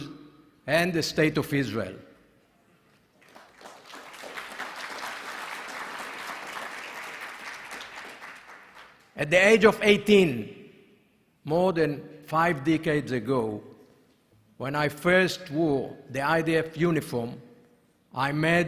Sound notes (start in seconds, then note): 7.3 applause